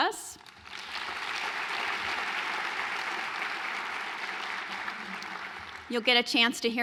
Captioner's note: applause